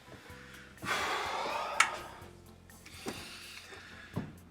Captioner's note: mellow music; Byron sighs